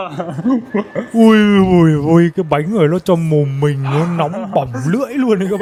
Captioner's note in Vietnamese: tiếng cười